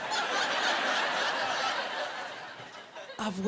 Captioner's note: laughter